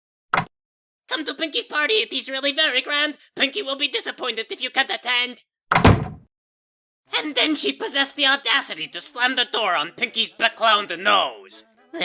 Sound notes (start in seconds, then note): 0.2 door opening; 5.7 door slams